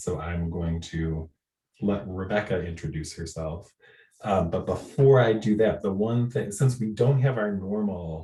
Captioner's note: clears throat